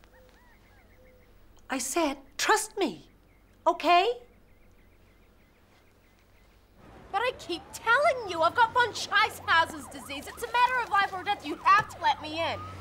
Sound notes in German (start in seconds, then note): none